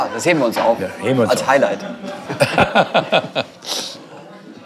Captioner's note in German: Lachen